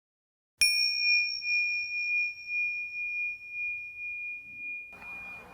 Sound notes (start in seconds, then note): 0.6 bell lightly chiming